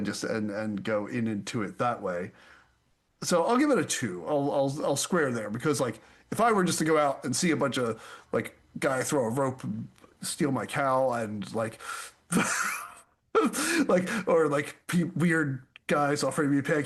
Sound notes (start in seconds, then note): 12.3 laughs